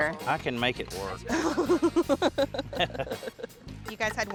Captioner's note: both laugh